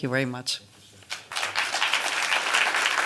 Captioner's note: applause